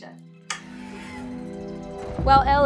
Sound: Demo Bat screeches

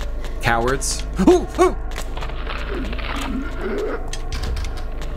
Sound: cowardly shrieking

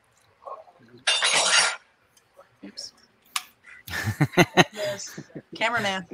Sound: dishes clattering; men laughing

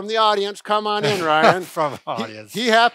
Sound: laughs

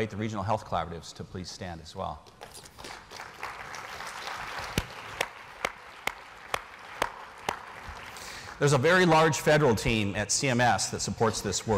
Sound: applause

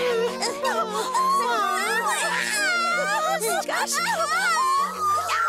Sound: all shrieking and gasping

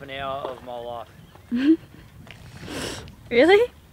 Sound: giggles

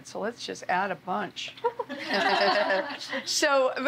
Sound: laughter

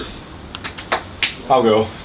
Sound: hands clapping a beat

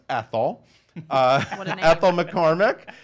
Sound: laughs

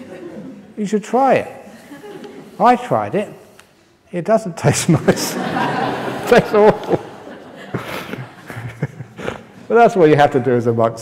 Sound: laughter

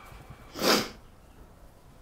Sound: sharp Inhale

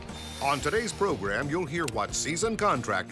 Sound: voiceover

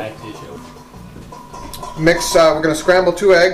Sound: clanking

